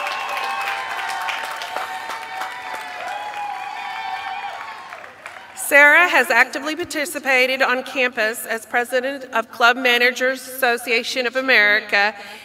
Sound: applause

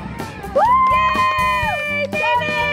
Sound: cheering

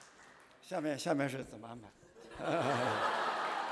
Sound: speaking chinese; laughter

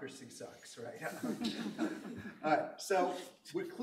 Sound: laughter

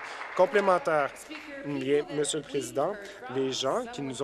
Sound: applause

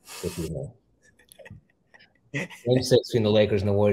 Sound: chuckles

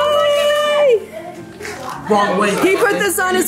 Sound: family chatters excitedly

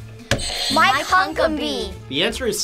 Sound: buzzer rings

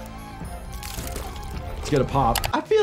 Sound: liquid sloshing

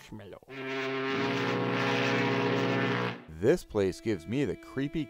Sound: foghorn blowing

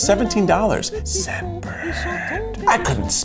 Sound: whispering

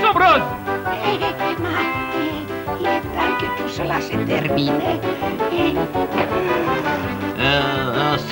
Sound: sighs

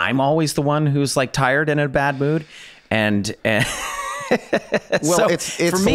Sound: laughs

